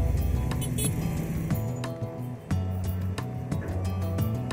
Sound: horn beeping

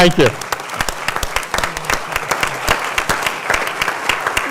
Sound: applause

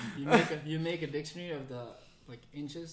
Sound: laughs

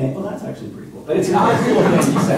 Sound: laughter

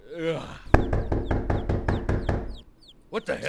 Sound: yawning; knocking louder

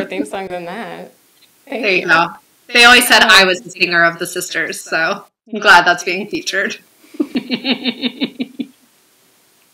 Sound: laughter

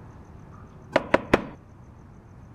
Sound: knocking

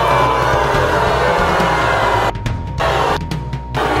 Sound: audience booing

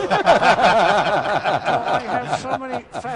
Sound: laughs

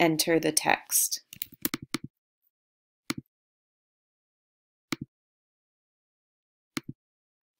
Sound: typing

